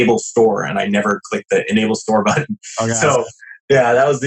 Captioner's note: laughs